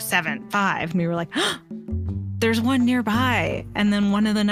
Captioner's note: gasp